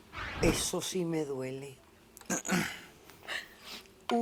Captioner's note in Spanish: carraspea; solloza